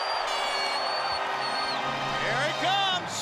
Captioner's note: crowd cheering